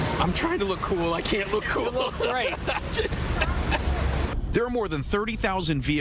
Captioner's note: laughing